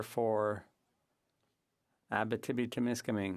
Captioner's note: speaking French